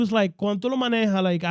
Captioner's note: speaking In Foreign Language